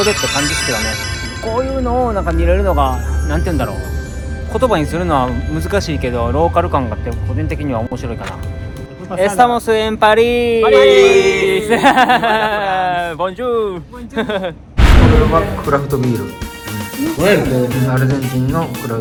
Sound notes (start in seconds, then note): 10.8 laughs